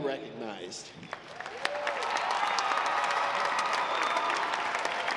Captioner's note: audience applauds